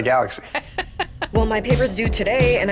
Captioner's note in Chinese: 笑声